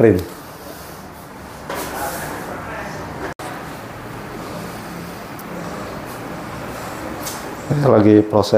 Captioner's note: printer machine noise